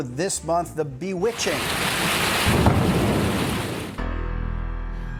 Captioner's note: thunder rumbles